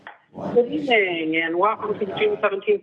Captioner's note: Zoom call echo